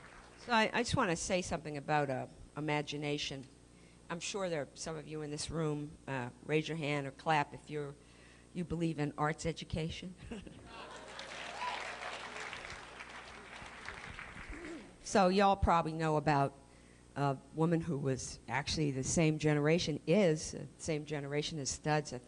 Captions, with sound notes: So I just want to say something about imagination. I'm sure there are some of you in this room. Raise your hand or clap if you believe in arts education. [APPLAUSE] So you all probably about a woman who was actually the same generation is-- the same generation as studs.